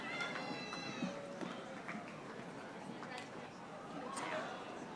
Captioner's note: audience applauding